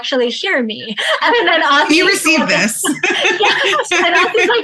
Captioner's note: laughs